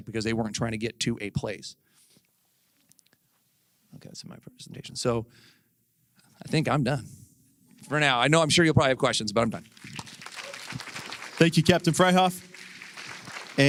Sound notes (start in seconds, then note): 9.6 applause